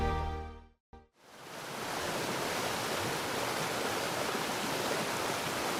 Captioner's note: water splashing